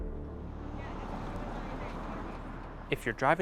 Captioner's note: traffic noise